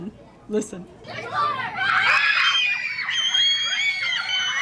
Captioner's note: screaming